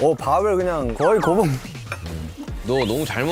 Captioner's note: haha